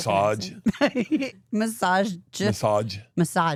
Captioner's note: laughing